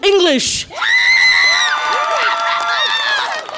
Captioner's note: audience applause and cheer